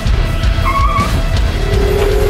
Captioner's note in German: Reifen quietschen; Tor knallt